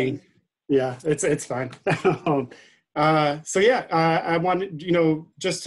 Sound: laughing

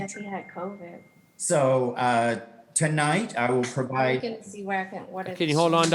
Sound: participant chattering

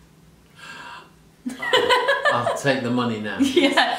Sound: laughing

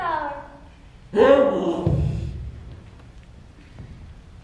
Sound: makes Donkey noise

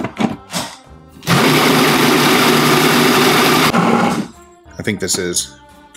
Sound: blender buzzing

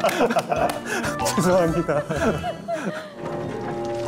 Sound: laughing

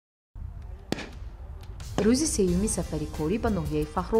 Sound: gunshots

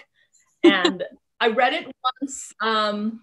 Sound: chuckling

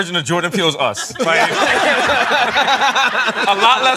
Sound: laughter

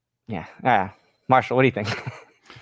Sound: laughs

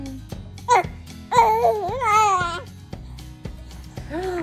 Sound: giggles

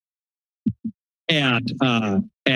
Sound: mic thumps

